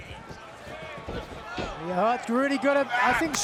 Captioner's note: fans chattering